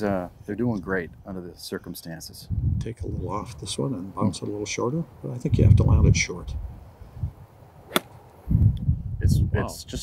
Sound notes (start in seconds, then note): 7.8 golf club whack